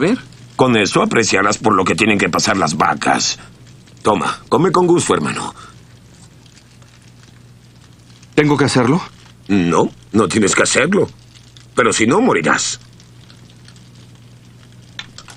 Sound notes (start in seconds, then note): none